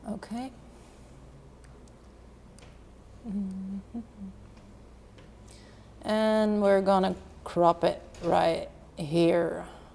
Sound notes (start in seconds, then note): 3.2 humming